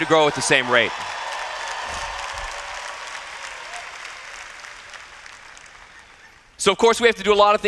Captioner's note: cheers